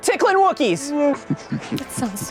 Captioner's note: Wookiee laughing sound